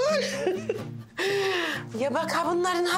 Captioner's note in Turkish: Gülüyor